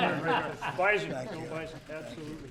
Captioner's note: laughter